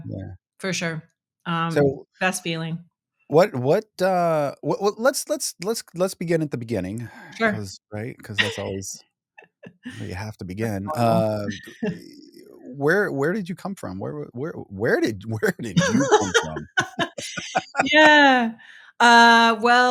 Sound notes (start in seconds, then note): 15.5 laughing